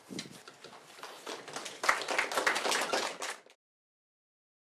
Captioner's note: applause